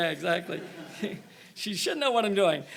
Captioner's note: all laughing